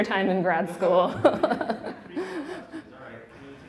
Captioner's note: laughing